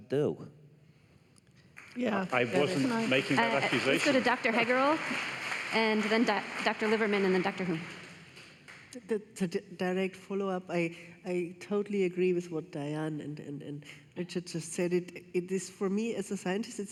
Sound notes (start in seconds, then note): 3.5 applause